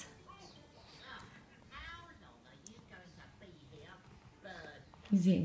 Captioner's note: cartoons play in background